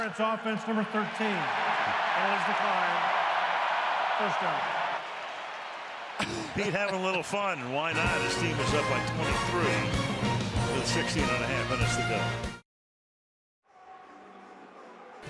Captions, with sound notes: Pass interference, offense, number 13. [cheering] Penalty is declined. First down. Pete had a little fun. And why not? His is team is up by 23 with 16 and 1/2 minutes to go.